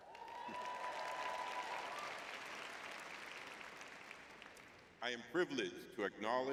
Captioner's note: audience cheering